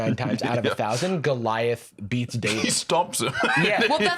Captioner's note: laughs